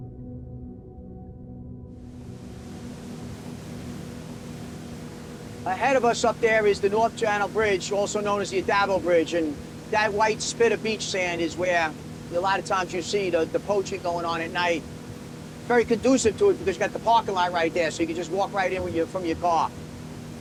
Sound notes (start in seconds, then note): 0.0 ominous music; 2.9 waves crashing; 20.2 boat motor humming